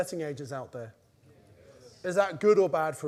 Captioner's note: crowd